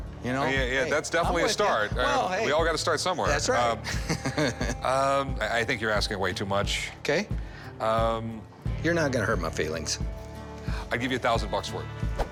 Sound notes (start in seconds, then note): 5.2 laughs